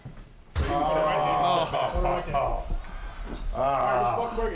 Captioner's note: DDP snickers